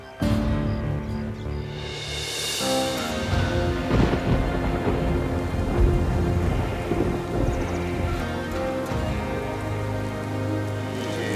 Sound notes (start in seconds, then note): 4.6 rain falling